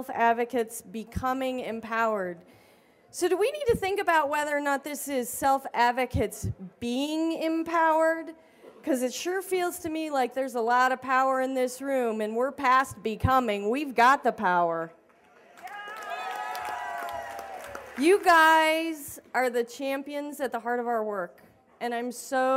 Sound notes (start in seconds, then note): 15.3 cheers and applause